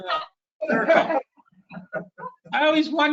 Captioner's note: laughing